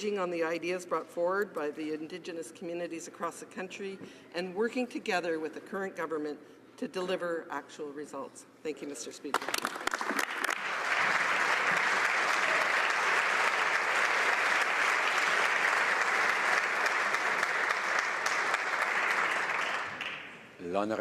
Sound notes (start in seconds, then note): 18.3 applause